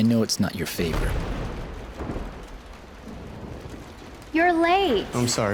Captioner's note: thunder booming